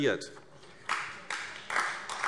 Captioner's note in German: Beifall AfD